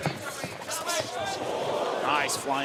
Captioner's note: audience oohs